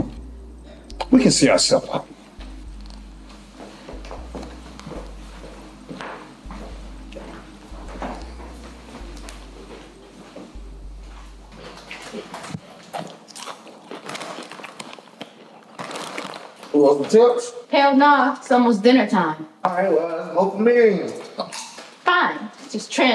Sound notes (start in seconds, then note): 11.8 chips crunching